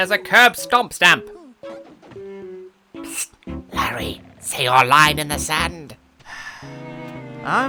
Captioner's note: whispering; sigh